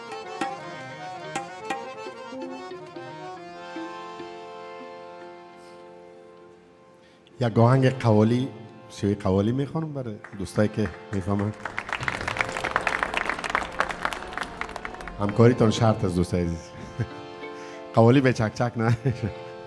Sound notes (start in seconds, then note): 7.6 speaking in a language other than English; 10.2 audience applauding; 15.3 speaking in a language other than English